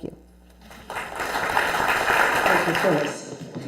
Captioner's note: applause